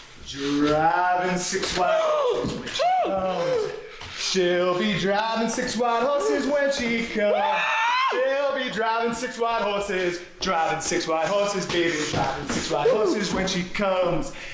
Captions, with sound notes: (Singling) Driving six white horses when she comes She'll be driving six white horses when she comes - (SCREAM) She'll be driving six white horses Driving six white horses baby, driving six white horses when she comes